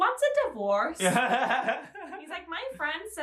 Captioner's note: laughs